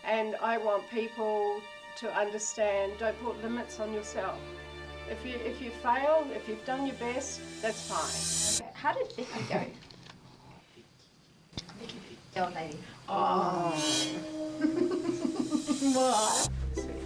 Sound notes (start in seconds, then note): 13.7 Morgan laughing; 16.8 soft music